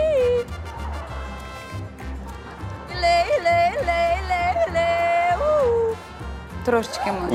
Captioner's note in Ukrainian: оплески